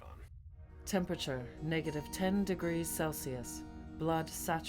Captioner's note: computer Voice